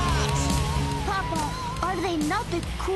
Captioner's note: music and cheering; russing accent